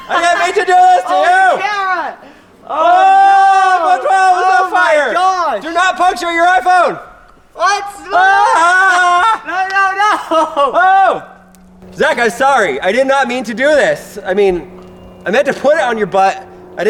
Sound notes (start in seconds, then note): 0.0 shouting; 2.8 both shout distinctly